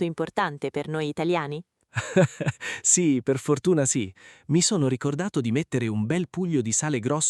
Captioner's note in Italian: risate